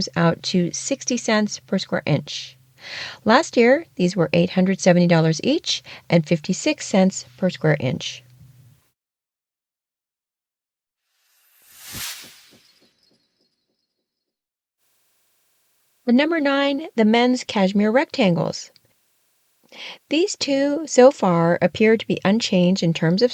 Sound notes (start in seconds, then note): 11.0 sound effect